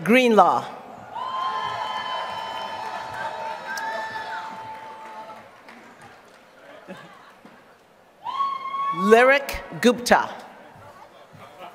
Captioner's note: applause